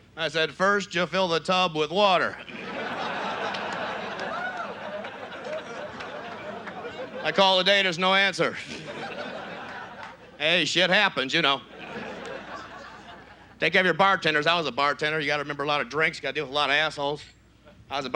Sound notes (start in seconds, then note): 2.3 audience laughs